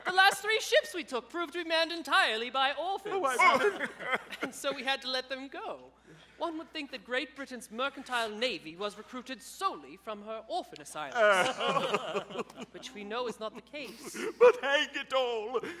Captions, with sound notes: The last three ships we took proved to be manned entirely by orphans, and so we had to let them go. One would think that Great Britain's mercantile navy was recruited solely from her orphan asylums! (all sobbing) Which we know is not the case. - But hang it all!